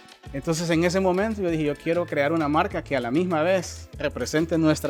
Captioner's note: speaking Spanish